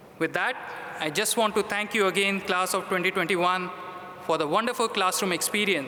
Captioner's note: none